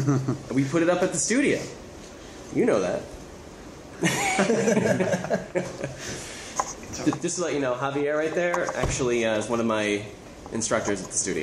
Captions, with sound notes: - And we put it up at the studio. You know that. (laughter) Just to let you know, Javier right there is actually one of my instructors at the studio